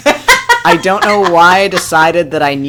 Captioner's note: laughs